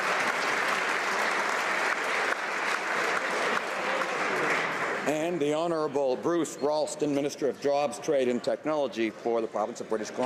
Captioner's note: applause